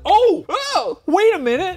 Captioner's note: exclaiming